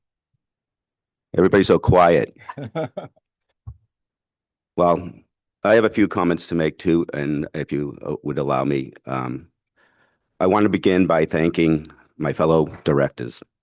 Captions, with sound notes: -Everybody's so quiet. -[laughs] Well, I have a few comments to make too, and if you, uh, would allow me. Um, I want to begin by thanking my fellow directors